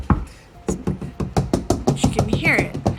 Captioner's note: door knocks